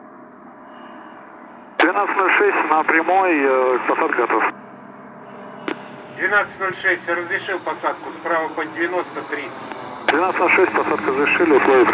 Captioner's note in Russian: ветер